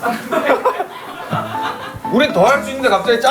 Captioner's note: hahaha